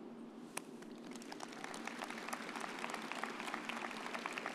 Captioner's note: everyone applauds